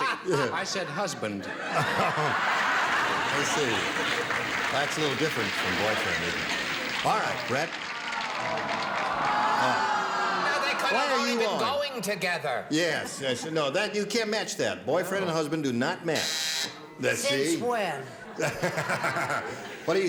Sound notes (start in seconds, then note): 9.0 oohing; 16.2 buzzing